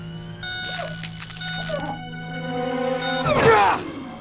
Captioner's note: loud beep